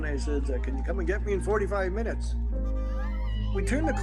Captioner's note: applause